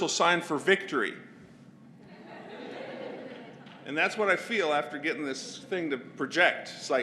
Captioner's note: laugh